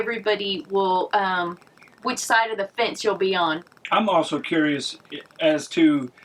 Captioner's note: none